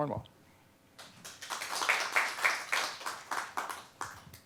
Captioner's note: applause